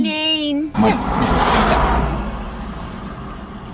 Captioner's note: car zooming past loudly